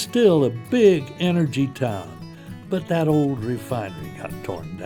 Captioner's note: voiceover